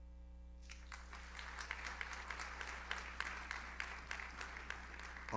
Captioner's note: audience applauds